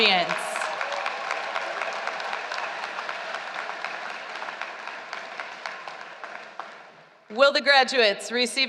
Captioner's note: applause